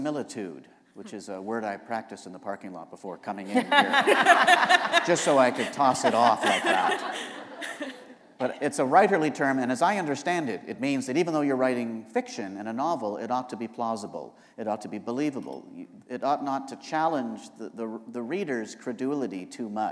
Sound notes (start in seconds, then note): 3.5 laughter